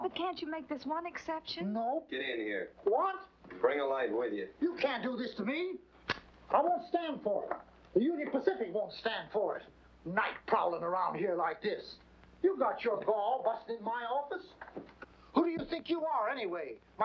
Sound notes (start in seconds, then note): 6.0 match striking